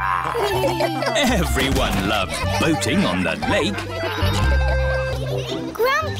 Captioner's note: all laugh; chuckles